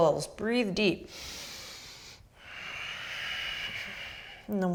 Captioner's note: deep breathing